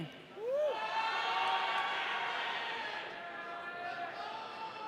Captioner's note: audience cheering